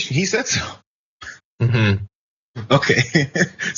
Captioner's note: laugh